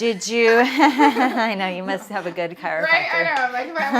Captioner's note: laughs